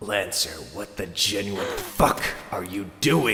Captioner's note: gasp